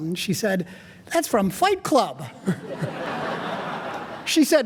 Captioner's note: audience laughing